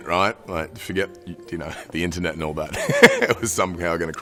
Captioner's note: laughing